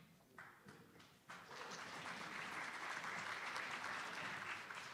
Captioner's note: attendees applauding